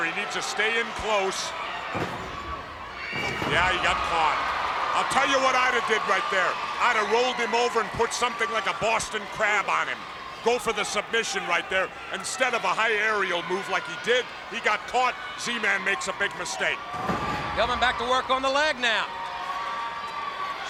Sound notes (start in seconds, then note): 1.9 body thudding; 2.2 crowd clamoring; 16.8 body thudding